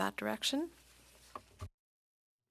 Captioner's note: speaking French